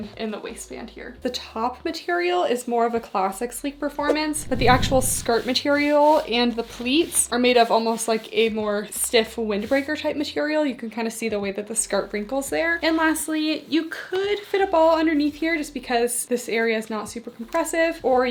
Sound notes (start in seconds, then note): 4.1 screen whooshing